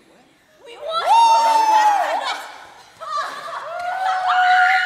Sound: cheering

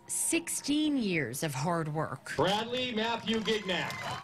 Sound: applause

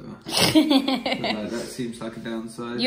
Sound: laughing

